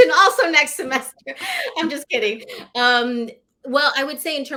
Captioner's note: laughter